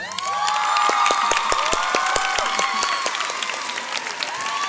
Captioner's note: audience cheers